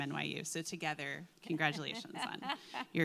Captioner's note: laughing